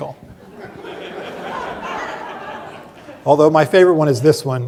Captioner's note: laughter